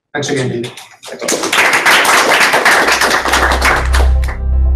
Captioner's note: applause